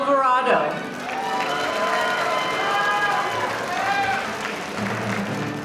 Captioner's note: audience applauding